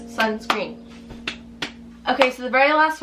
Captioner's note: hands clapping